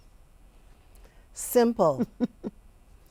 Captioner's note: chuckling